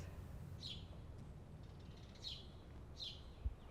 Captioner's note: birds sing